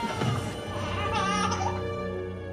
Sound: baby crying

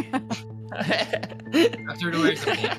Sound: laughs

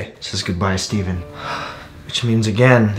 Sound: gasping

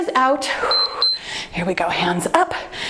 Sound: timer beeps

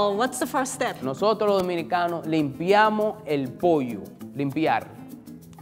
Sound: speaking in foreign language

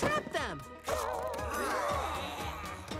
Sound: groaning

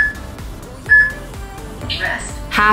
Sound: peep

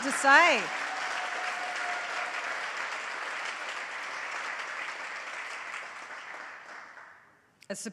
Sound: audience cheering; audience applauds continue

